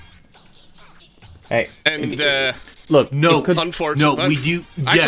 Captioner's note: stammers